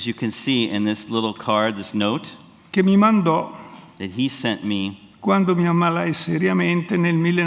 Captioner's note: speaks in Italian; speaks in Italian